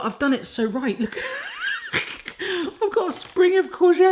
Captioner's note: laughs